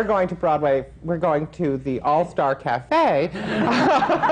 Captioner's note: laughter